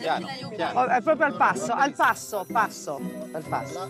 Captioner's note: speaks in Italian